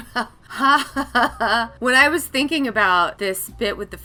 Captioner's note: laughs